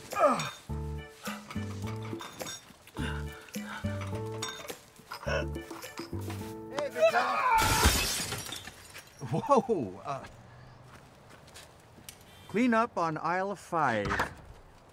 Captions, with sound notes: (John continues grunting) - Hey, Big John. (John grunts) (bottles shatter) Whoa. Clean up on aisle five.